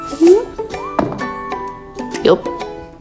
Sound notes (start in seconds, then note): 1.0 bang